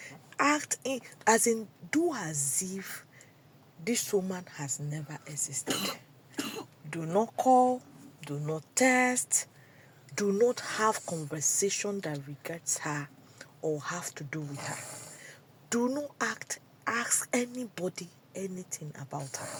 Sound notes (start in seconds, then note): 5.6 cough and clears throat